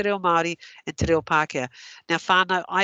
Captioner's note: non-english